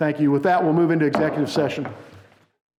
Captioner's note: gavel banging